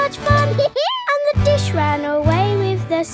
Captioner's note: dog laughs